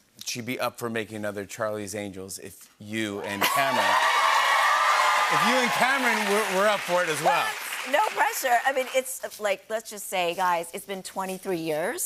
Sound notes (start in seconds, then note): 3.2 cheers and applause